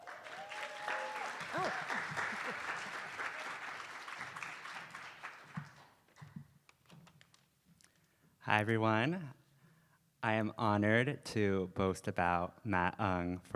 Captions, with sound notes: (attendees applauding) Oh. (laughs) - Hi, everyone. I am honored to boast about Matt